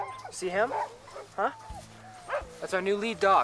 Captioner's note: dogs barking